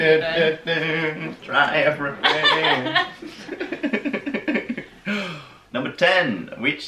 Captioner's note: laughter